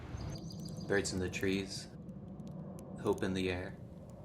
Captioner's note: birds chirping